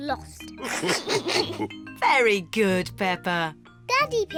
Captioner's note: all laugh